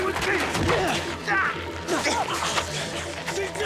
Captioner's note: Jack grunting